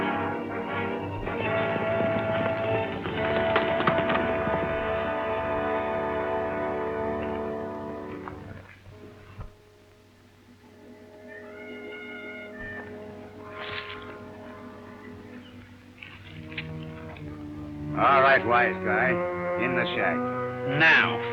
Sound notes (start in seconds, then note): 0.0 lively orchestral music; 4.0 horse galloping; 7.7 suspenseful music